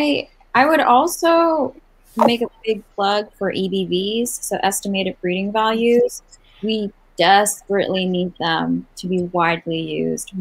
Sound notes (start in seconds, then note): none